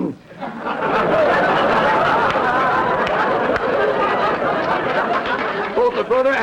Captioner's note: audience laughter